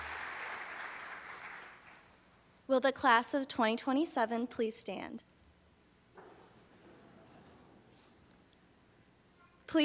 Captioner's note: applause